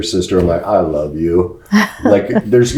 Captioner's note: laughs